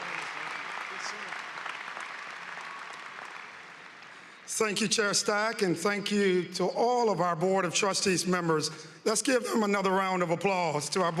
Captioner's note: applause